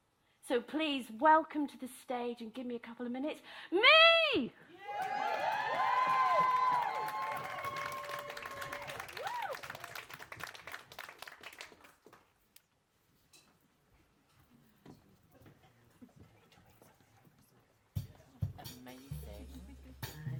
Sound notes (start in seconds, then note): 4.9 applause